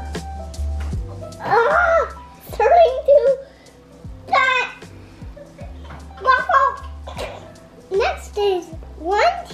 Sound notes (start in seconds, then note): 1.7 laughs